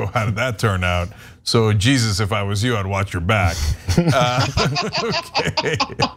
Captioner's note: laugh